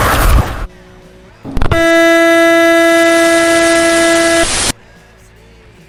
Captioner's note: car horn